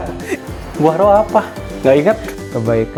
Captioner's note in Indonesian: Tertawa